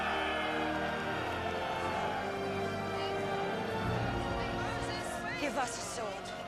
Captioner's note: crowd cheering